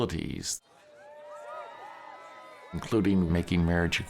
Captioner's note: cheering